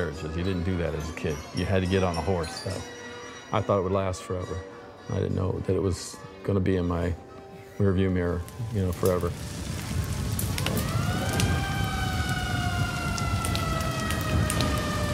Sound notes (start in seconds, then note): 11.2 fire crackles; 12.5 sirens blare